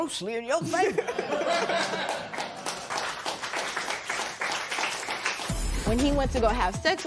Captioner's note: laughter and applause